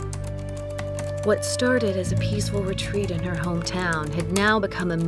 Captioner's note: typing resumes